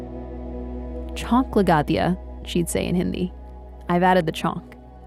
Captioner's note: speaking Hindi